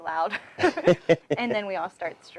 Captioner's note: laughing